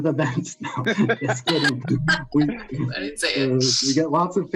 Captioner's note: everyone laughing